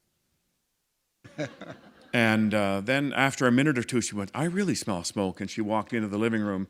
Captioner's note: chuckle